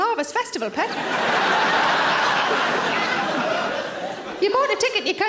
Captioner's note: audience laughing